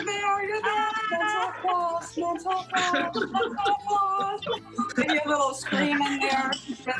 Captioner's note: laughter